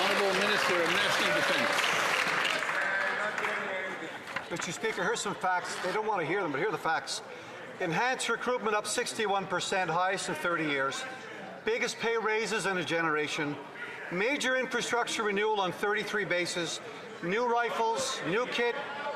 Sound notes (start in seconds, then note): 3.9 some Applause